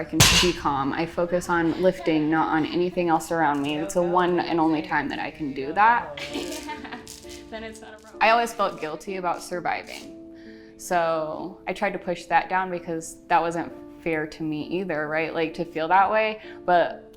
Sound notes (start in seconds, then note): 6.0 laughs